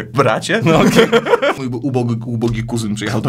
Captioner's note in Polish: śmiech